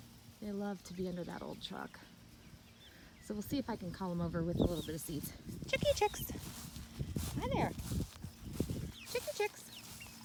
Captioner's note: calls chicks